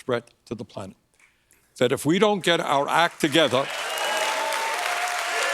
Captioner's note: applause